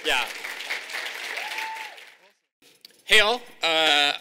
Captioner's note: audience applauding